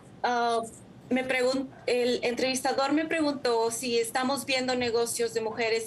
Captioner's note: speaking in foreign language